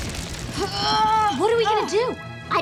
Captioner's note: grunting